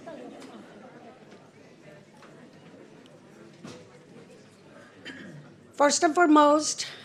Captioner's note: clears throat